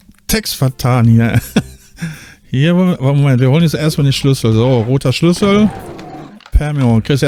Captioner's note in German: gelächter